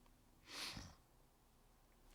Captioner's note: sniffling